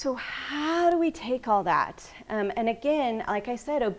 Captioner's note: none